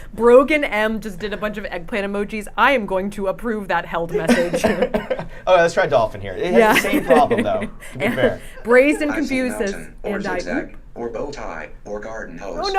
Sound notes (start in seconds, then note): 4.1 laughing